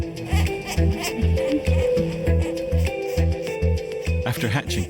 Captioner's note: baby chick squeaking